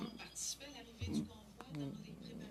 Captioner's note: speaking French